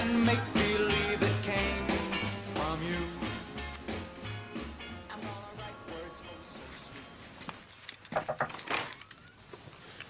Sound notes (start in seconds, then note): 8.1 knocking